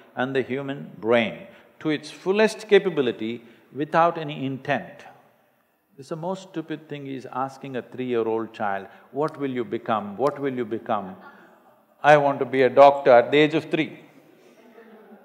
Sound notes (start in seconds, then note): 11.2 few laugh; 14.4 laughter